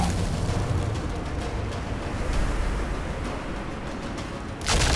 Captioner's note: shouts incantation; wind blowing